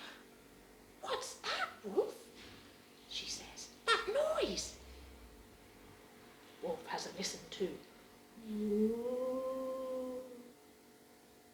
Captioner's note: whooo